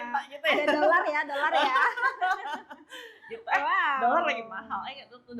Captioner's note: laughs